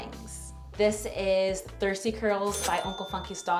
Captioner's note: bell dinging